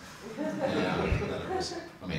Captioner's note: audience laughs